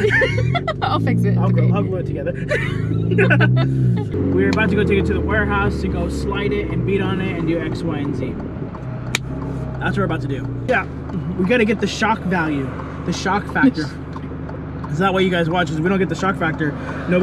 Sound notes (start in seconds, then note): 0.0 both laughs; 9.1 hand claps